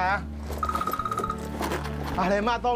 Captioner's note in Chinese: 來電鈴聲